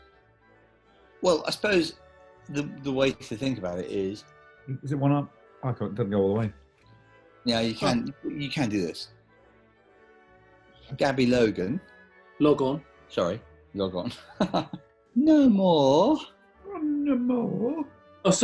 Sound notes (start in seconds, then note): 14.0 laughs; 14.8 high pitched